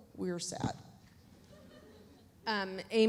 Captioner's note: audience chuckles